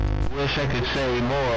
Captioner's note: glitching noise